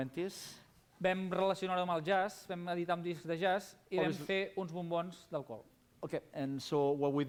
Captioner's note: non-english speech